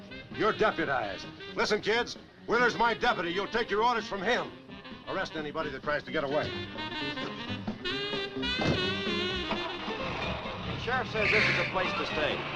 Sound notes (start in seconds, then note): 9.4 engine cranks